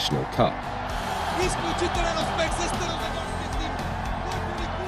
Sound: fans celebrating

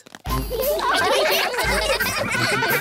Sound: laughter

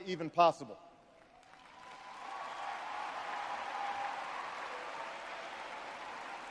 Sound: audience cheers and applauds

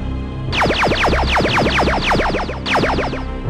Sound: lasers firing

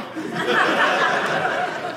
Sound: audience laughing

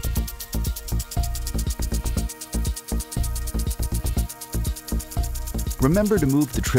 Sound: gentle continues music; sprinkler clicking

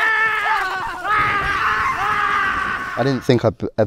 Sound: Dustin yells; Eddie yells

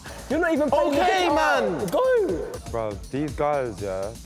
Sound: arguing

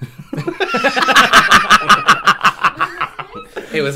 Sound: cackles

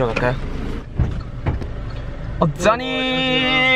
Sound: the door opens

